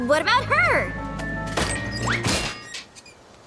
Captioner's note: crash/thud